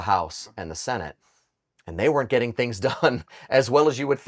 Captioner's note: chuckles